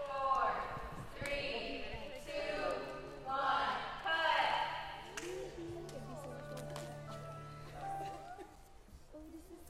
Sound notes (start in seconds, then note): 4.9 crowd talking